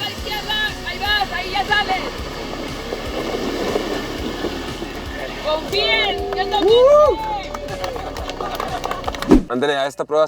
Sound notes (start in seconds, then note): 2.8 engine revving; 5.5 claps and cheering